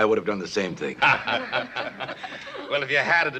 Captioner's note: laughter